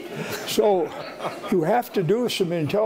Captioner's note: audience laughing